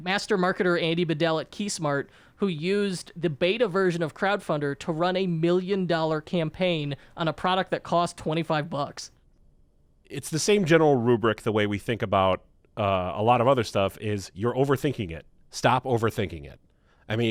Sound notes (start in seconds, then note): none